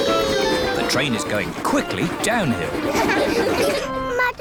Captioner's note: laughter